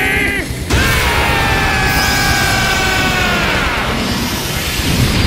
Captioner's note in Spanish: Gritos